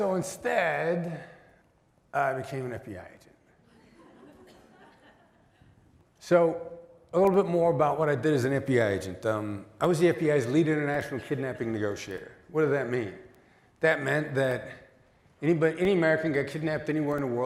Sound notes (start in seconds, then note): 3.6 laughter